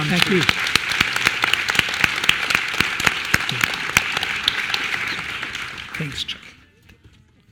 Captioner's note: applause